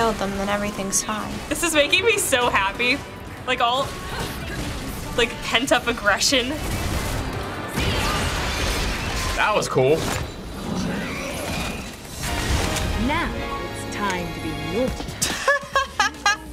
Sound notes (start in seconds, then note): 6.6 gunfire; 15.2 laughing